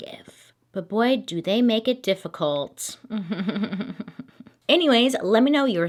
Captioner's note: chuckling